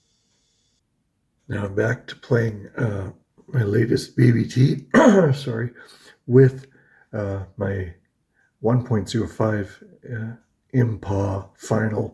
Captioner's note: chokes